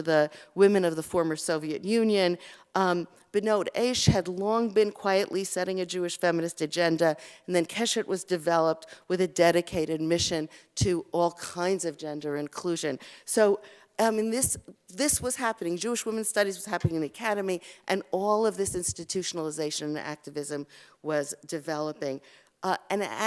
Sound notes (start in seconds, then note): 3.0 Hebrew